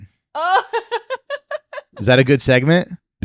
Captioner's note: laughing